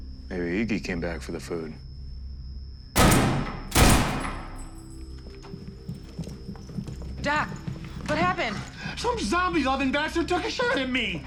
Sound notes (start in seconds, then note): 2.9 gunshots; 2.9 bullet shells clinking